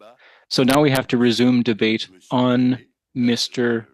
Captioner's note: speaking French